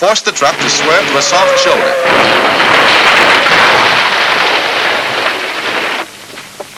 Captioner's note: car crash sounds